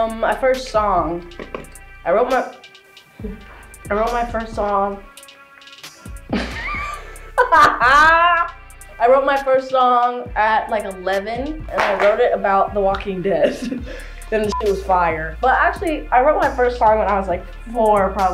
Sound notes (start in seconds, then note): 3.0 giggles; 6.3 laughs